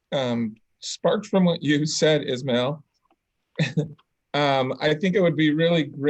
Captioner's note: giggles